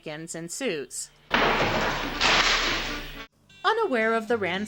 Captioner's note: crash